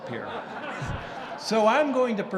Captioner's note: audience laughing